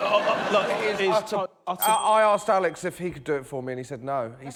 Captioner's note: laughter